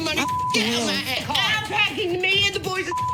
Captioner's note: beep; beep